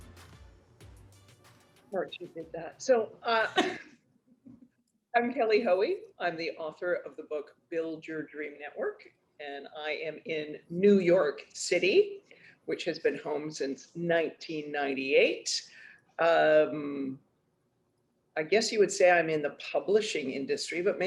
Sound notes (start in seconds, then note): 3.4 laughter